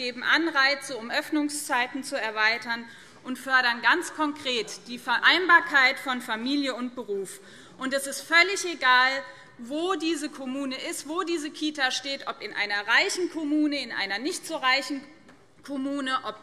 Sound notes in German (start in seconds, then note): none